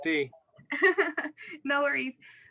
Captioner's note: laughter